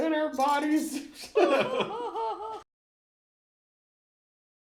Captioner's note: laughing